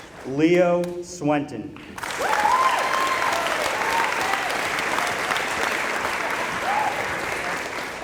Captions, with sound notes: Leo Swenton [applause]